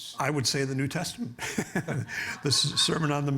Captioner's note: laughing